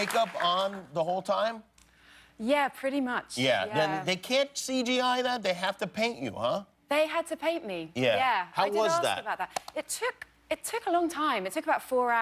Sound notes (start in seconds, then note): 0.0 cheers and applause